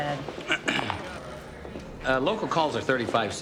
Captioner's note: clears throat